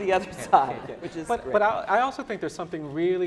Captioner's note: laughing